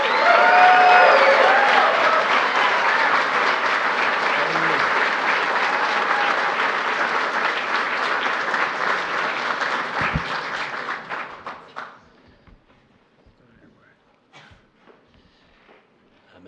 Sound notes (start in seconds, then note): 0.0 applause